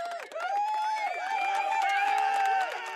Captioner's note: audience cheering